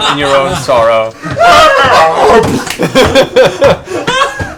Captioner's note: laughter